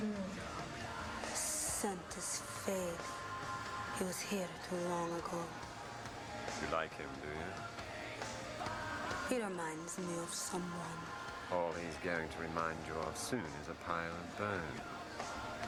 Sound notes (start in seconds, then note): none